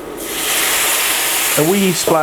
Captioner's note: sizzle